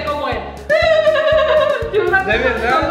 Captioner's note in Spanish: Risa burlona